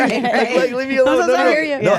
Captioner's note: group laughing